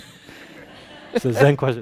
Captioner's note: audience laughing